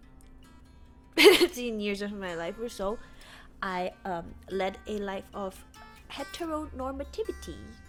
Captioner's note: cough